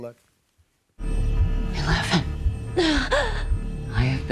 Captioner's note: gasps